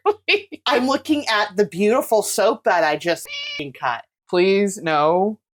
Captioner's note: meow